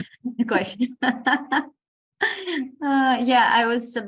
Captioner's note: women laugh